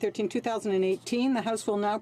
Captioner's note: speaking French